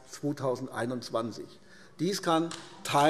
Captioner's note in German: Beifall AfD